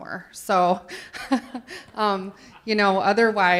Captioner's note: laughs